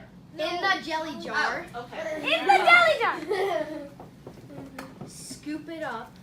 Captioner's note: giggling